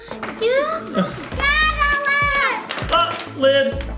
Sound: screams

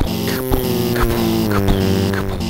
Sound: car buzzing

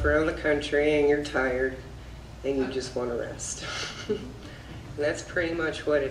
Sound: laughs

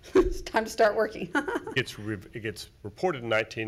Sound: laughs

